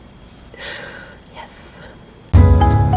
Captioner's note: whispers